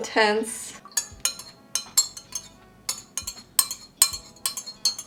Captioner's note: spoon clinking